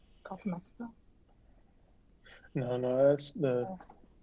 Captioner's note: murmuring